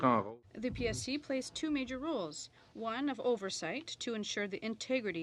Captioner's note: speaking french